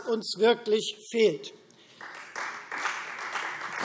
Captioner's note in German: Beifall Freie Demokraten, CDU und SPD